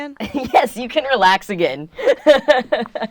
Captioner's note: laughs